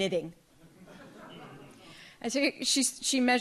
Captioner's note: audience laughs